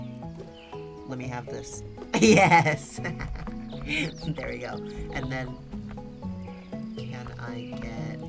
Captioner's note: laughs